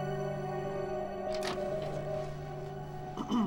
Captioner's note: door opens